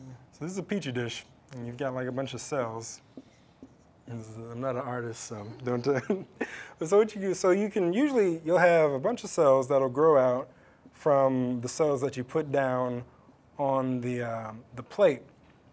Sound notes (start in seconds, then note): 6.7 laugh